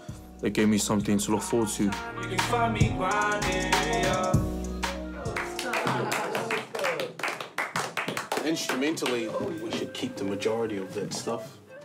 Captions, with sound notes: so it gave me something to look forward to. (upbeat music) (clapping) - Instrumentally we should keep the majority of that stuff.